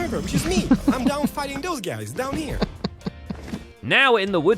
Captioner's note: chuckling